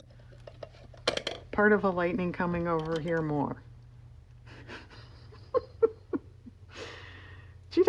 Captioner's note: laughs